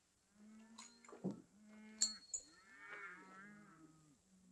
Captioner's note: cattle mooing